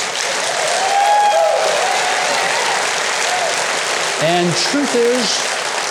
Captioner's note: audience applauding